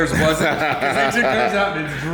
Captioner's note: laughter